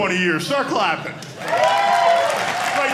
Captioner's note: audience cheering